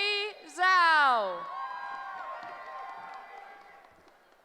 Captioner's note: cheering